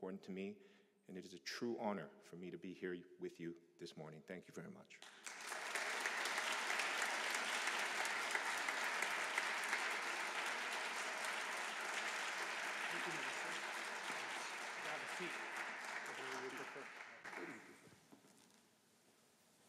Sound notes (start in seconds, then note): 5.0 applause